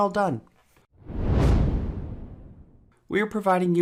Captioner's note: whoosh